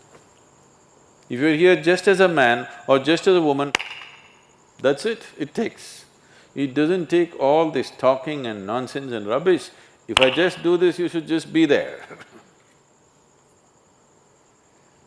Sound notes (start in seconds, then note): 3.7 claps; 10.2 claps